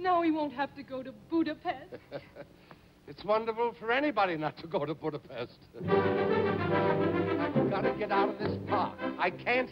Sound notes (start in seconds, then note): 1.9 chuckles; 5.8 upbeat orchestral music